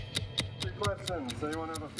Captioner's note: clock ticking